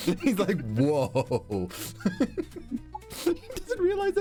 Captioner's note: laughter